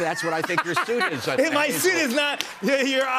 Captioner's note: laughing